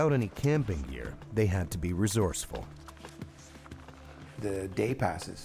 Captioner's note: voiceover